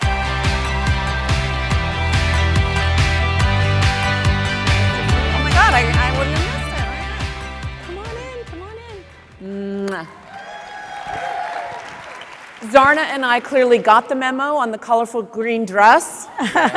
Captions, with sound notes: (upbeat music) Oh my God, I wouldn't have missed it. Come on in, come on in. (audience applauds) Zarna and I clearly got the memo on the colorful green dress.